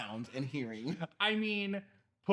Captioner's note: laughing